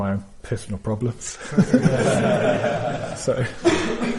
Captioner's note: audience laughs